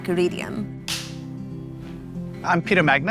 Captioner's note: shutter clicks